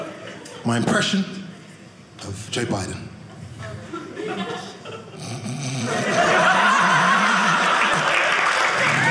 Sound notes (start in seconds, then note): 5.2 snoring; 5.6 audience laughing; 6.0 audience applauding; 8.9 audience cheering